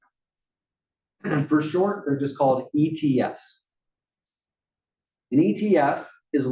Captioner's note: cough